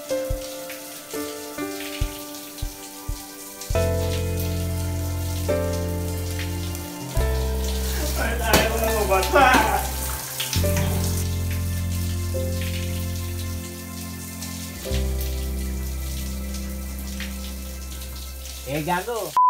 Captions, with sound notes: why won't you get wet? [sobs] [sobbing intensifies]